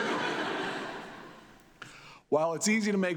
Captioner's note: audience laughs